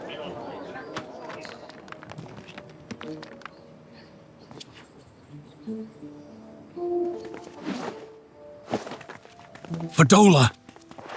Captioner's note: footsteps